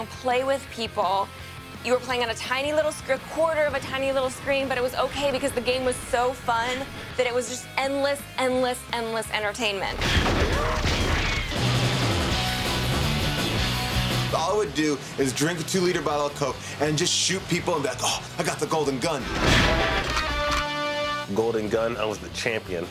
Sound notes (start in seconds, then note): 10.0 gunfire; 20.6 theme plays